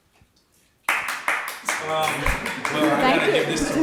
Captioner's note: audience clapping